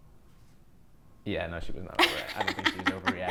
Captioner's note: laughs